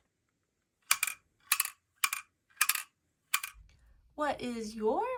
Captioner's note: metal clanks rhythmically